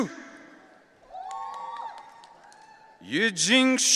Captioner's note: audience cheering